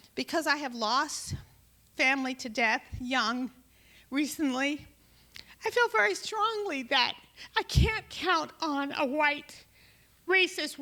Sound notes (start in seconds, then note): none